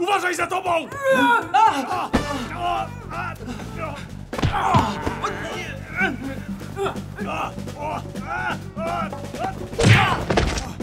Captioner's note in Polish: odgłosy bójki